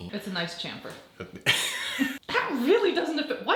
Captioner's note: laughing